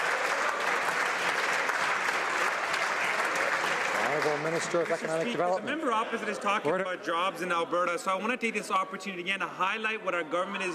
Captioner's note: some Applause